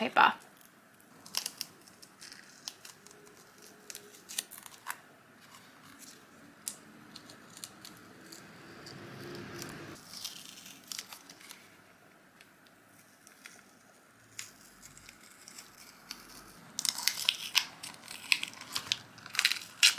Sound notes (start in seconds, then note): 1.1 tearing and sticky sounds; 5.5 peeling sounds; 16.8 masking tape crunches